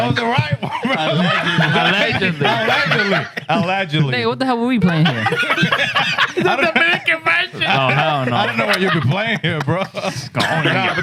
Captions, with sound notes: That was the right one, bro. Aladgily. Aladgily. Aladgily. Hey, what the hell were we playing here? (Laughing) The American version. I don't know. I don't know why you be playing here, bro.